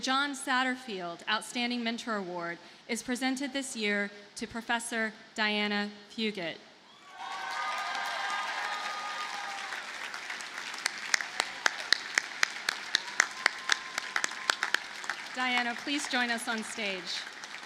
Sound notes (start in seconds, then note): 7.4 audience cheers and applauds